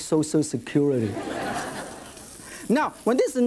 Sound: audience laughs

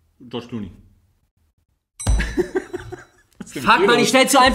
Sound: laughs

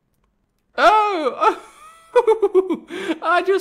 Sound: royal laugh

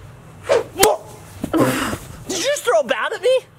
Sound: swoosh sound effect; yelps

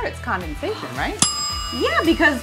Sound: bell dings

